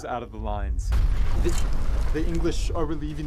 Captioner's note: bomb explodes